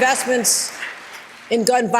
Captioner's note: applause